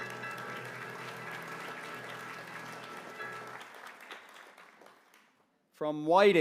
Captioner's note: applause